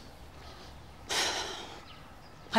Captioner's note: sigh